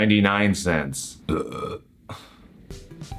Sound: belch

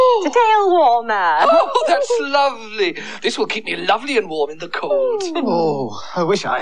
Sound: chuckles

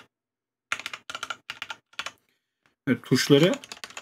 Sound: random keystrokes

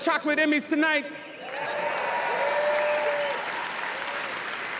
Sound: applause, cheering

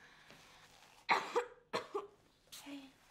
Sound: Mark coughs

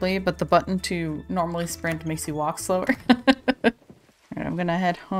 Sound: laughs

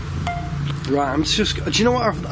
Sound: device beeps

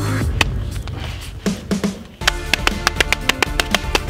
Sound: machete hacking

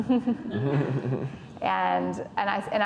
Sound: laughing

